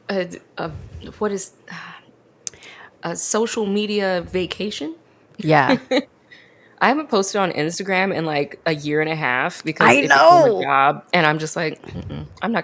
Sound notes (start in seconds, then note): 5.7 laughs